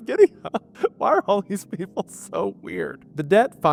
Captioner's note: laughing